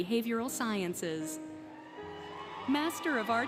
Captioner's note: applause, Cheering, Music